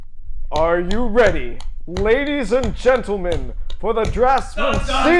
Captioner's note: clapping